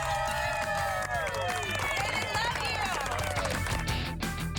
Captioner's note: cheers and applause